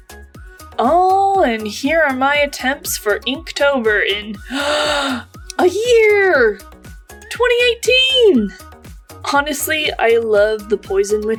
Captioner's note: gasp